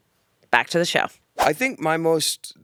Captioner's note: transition whooshes